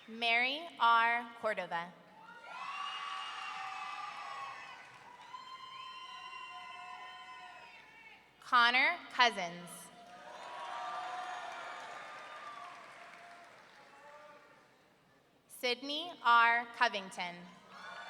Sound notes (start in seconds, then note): 2.2 audience cheering; 5.6 audience member whooping; 10.0 audience cheering